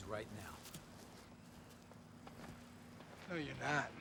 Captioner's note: footstep